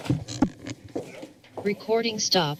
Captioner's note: mic rustling